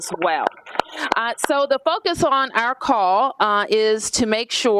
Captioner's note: applause